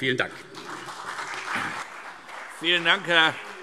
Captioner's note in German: Beifall CDU und BÜNDNIS 90/DIE GRÜNEN